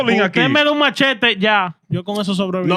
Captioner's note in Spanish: Hablando en idioma extranjero